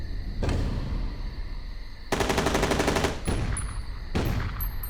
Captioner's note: gunshots